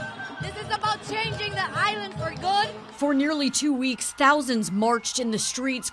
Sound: scream¢s/cheers

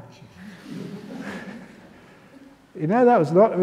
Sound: laughter

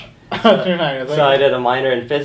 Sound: laughter

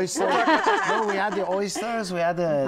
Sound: laughter

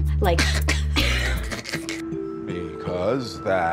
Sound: both laughing

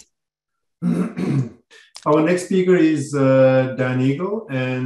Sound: cough

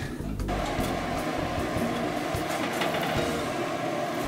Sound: flames roaring

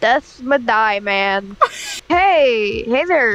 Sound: cut off laugh

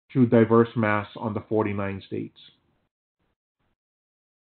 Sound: silence

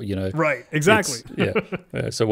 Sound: laughing

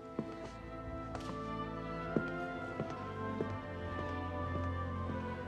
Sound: footsteps

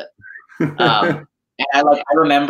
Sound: laughs

